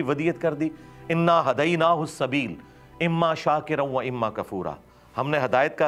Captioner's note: reciting a verse of the Qur'an